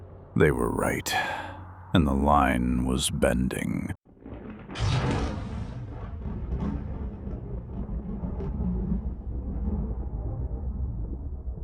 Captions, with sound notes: They were right, and the line was bending. [explosion]